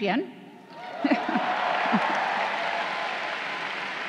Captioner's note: crowd cheering